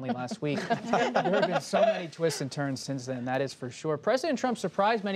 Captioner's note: laughter